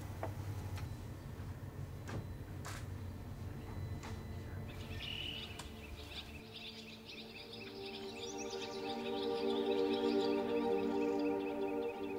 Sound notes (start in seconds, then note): 2.4 gentle music; 4.6 birds chirping